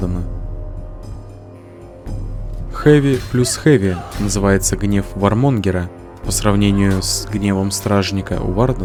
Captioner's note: scratches